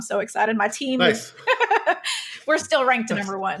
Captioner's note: laughs